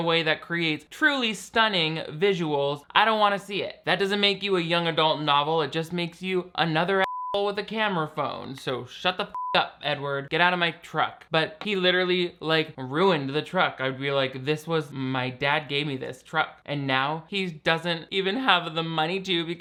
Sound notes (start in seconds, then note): 9.3 beep